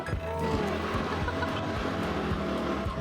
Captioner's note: laughs